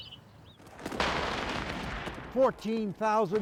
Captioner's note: canon fires